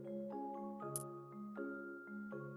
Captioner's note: click sound